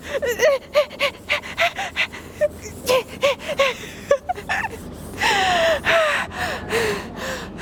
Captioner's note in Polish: odgłosy sapania; smiech